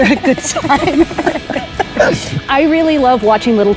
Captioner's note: both laugh